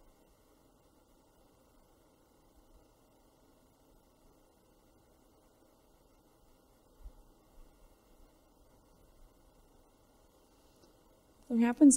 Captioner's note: silence